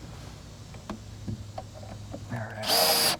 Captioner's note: drill whirring, no additional audio